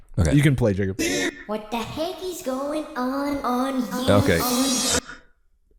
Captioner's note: high-pitched voice